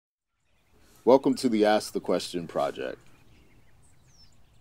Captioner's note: birds chirping